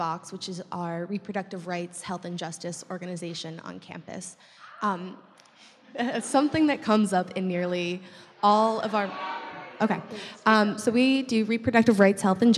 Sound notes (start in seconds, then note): 0.0 voiceover; 9.0 voiceover